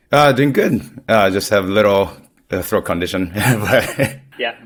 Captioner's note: laughs